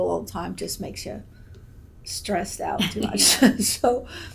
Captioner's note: laughs